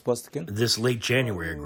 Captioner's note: through translator